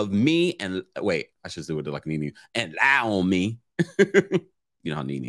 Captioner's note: laughs